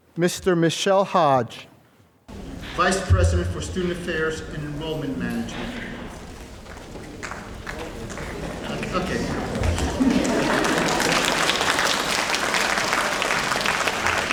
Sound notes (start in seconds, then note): 9.2 laughter; 10.9 applause